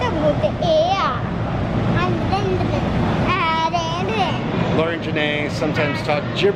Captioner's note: speaking in gibberish